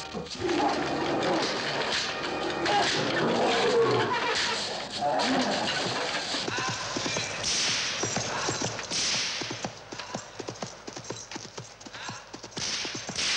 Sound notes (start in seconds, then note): 0.0 gorilla growling; 2.7 whip cracking